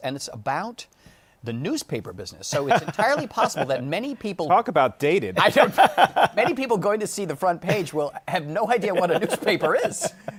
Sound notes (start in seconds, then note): 5.4 laughs